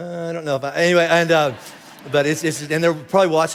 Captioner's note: congregation laughing